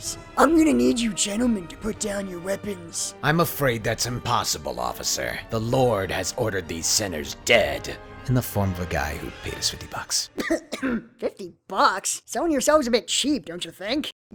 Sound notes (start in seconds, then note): 3.5 deep raspy voice; 10.3 Kirito coughs